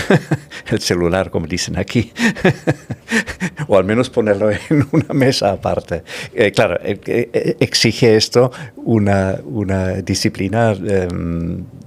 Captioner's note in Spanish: risas